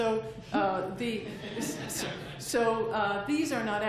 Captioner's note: laughter